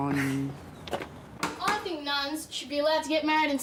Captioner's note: knock at door